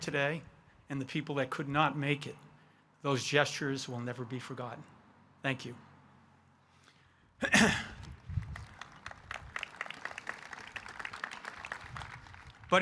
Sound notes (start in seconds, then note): 7.4 clearing his throat; 8.3 audience applauding